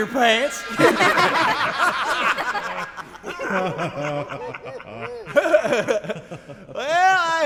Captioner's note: laughter